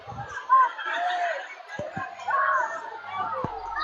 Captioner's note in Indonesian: tertawa